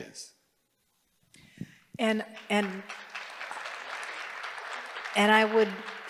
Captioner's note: applause